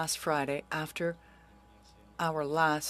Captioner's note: speaking French